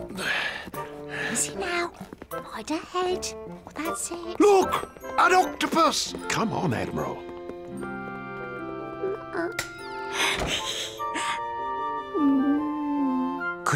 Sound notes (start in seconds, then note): 10.3 giggles